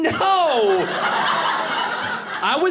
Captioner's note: audience laughing